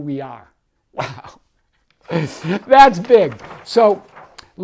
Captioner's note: laughs